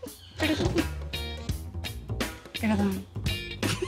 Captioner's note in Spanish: Risas